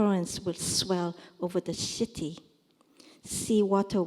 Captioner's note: korean